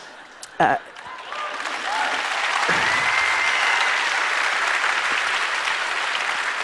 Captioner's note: laughter; applause